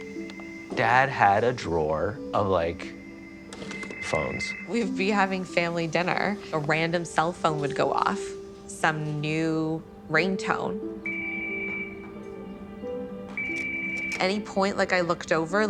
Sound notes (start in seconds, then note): 11.0 phone ringing